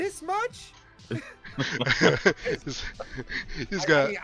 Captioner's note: laughter